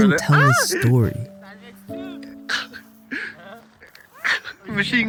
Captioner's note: man speaking in foreign language